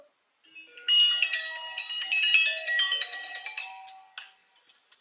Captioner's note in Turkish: Telefon çalıyor